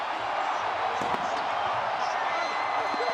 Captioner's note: crowd cheering